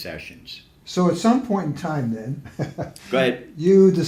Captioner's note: laughs